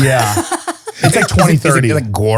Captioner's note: laughing